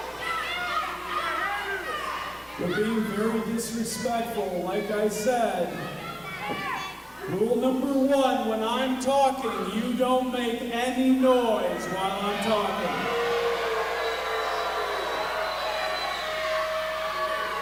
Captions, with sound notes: You're being very disrespectful, like I said. Rule number one, when I'm talking, you don't make any noise while I'm talking! (crowd boos and yells)